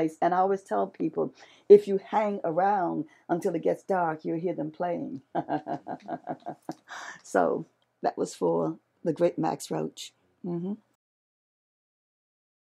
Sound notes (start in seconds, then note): 5.3 laughter